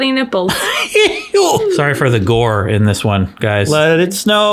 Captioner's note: laughs